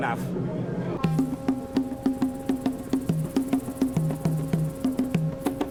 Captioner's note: ship horn blows, rhythmic drum music plays